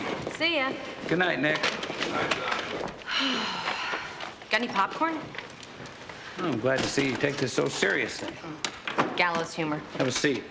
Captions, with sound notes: - See ya. - Good night, Nick. - Good night, son. - (sighs) Got any popcorn? - Well, I'm glad to see you take this so seriously. - Hmm, gallows humor. - Have a seat.